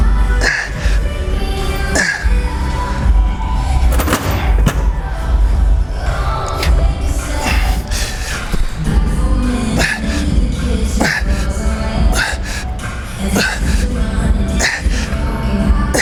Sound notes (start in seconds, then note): 7.7 grunting